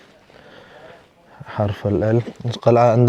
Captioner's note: Arabic